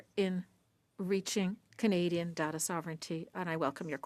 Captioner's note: speaking French